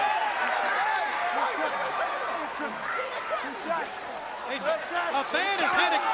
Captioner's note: crowd cheering